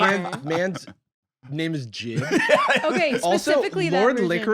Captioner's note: laughs